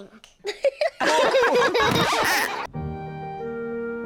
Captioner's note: all laugh